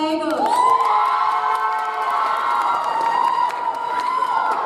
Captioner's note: audience applauds